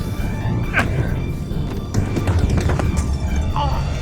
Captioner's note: slapping